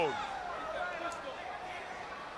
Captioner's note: crowd chatter